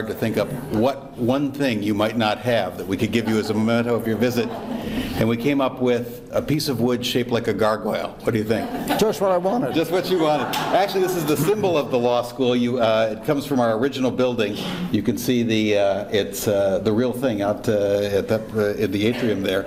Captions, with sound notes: to think up what one thing you might not have that we could give you as a memento of your visit. (audience laughs) And we came up with a piece of wood shaped like a gargoyle. What do you think? - Just what I wanted! - Just what you wanted. Actually, this is the symbol of the law school. It comes from our original building. You can see it's the real thing out in the atrium there.